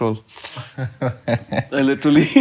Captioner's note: laughing